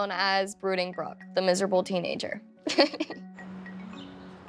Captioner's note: laughs